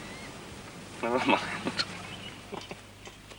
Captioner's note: chuckling